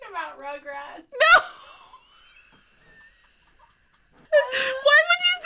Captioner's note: laughs